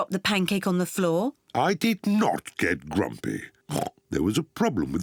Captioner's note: oinks